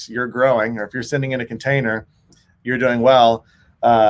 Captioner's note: none